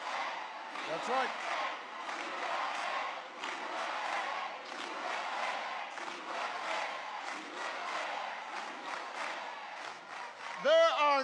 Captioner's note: applause